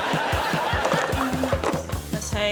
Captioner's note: laughter; whimsical music playing